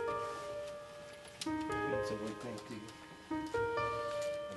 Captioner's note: muttering